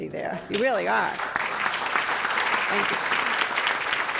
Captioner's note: applause